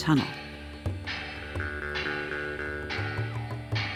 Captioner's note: metal clanging